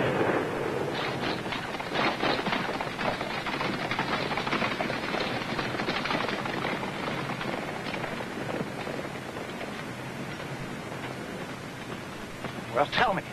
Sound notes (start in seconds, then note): 0.0 horses running